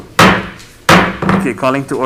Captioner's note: mallet thudding